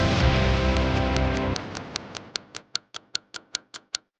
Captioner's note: clock ticking